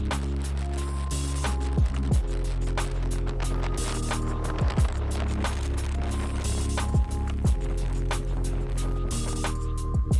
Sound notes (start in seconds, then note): 3.5 wind blowing